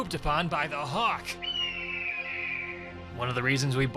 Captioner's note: hawk screeches